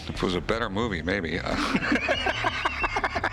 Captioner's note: laughter